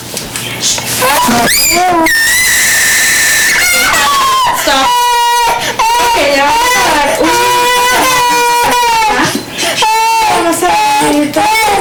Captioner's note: child screaming